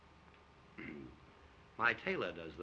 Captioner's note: clears throat